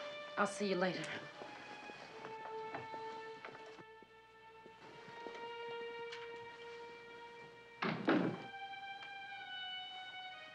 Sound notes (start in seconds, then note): 7.8 kapı kapanması